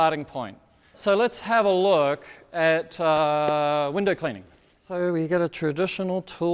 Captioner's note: claps